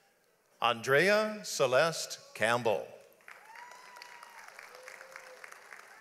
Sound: audience applauds

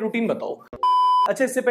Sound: beep

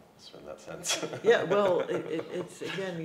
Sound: laughs

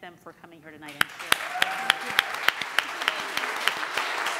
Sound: applauding

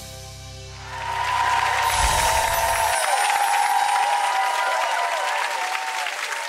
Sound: crowd cheers

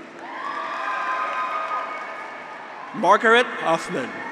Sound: graduates cheer

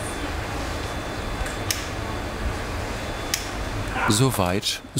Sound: machine roar and voices in the background

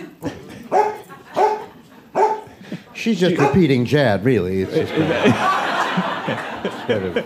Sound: Macy barks

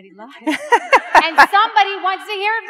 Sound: laughs

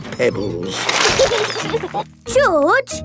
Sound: laughing

